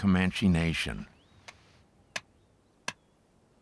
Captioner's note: tapping